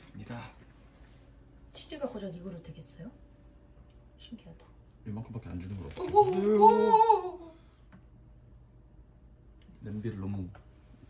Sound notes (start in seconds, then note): 6.0 laughing